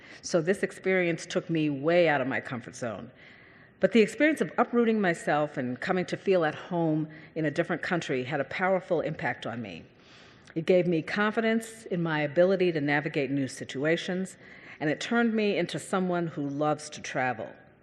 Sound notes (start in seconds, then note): none